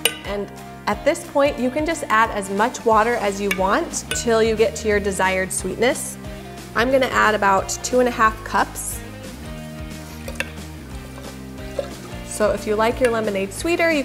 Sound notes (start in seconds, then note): 11.6 lemonade sloshing